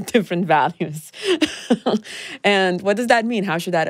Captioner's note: chuckles